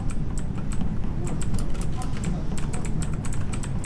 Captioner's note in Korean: 두근두근